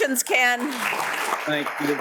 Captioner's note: audience applauds